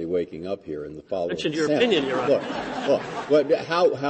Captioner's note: laughter